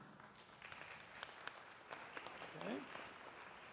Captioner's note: applause